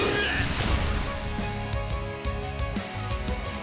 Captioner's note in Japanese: うめき声